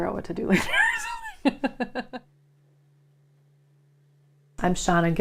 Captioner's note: laughing